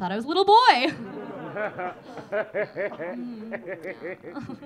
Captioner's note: audience laughing